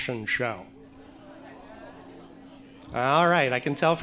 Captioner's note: audience chattering